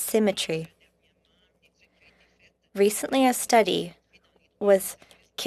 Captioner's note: speaking French